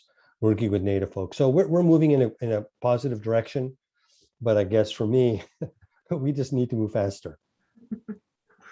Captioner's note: laughs